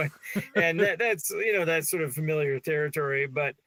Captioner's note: laughing